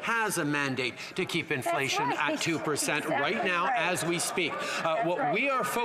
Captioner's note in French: voix de l'interprète